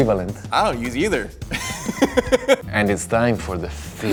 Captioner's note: interviewee laughing